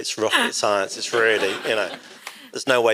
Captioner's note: audience laughs